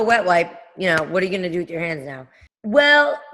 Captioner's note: none